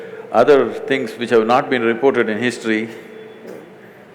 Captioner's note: laughs